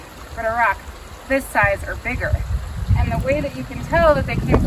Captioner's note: wind noise